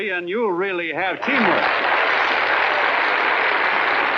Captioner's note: applauding